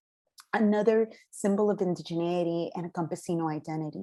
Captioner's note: non-english speech